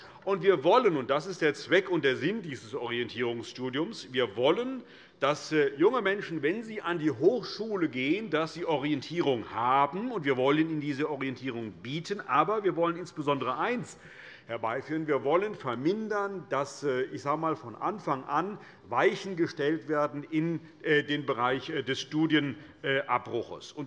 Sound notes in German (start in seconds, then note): none